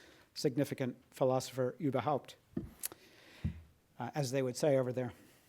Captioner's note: speaks in foreign language